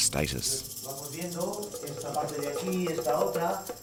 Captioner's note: speaks in spanish